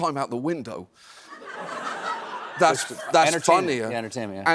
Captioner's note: laughter